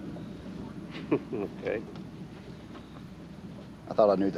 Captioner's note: chuckles